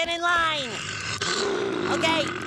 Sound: growling

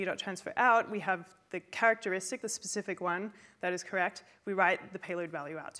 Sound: none

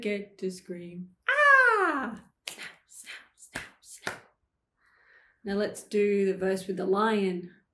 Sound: snap, snap, snap, snap

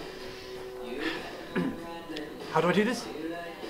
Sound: clears throat

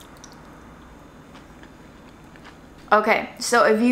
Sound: food squishing

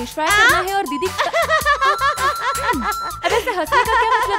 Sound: laughs

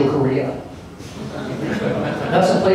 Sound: laughter

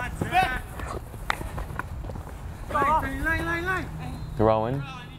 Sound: players talking and yelling

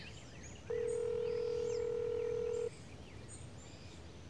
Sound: phone ringing

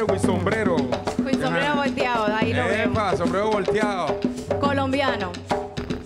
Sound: speaking in Spanish

